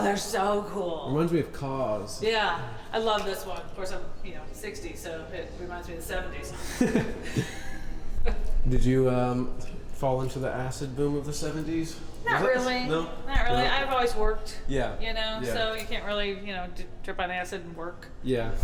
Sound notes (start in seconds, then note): 6.6 laughing